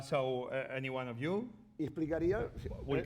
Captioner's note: speaking spanish